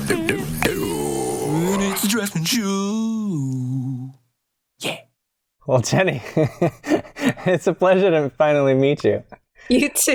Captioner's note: chuckles